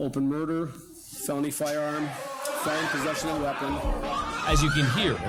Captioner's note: people clamoring, screaming